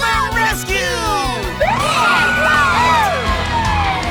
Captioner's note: siren wailing